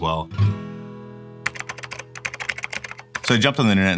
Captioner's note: typing